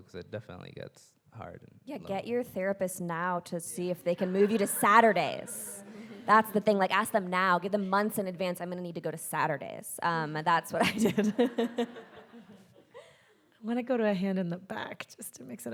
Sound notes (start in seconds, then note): 10.9 audience laughs; 11.5 chuckles